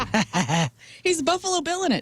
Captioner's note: laughter